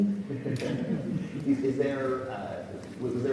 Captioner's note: everyone laughs